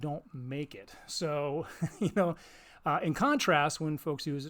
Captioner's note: chuckles